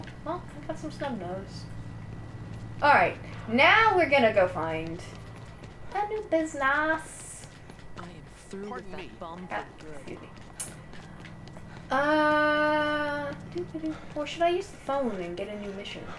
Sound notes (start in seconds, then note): none